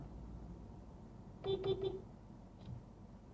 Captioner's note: beepbeepbeep